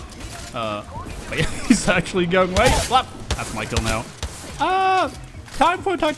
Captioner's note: chuckles